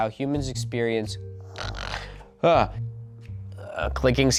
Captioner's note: snoring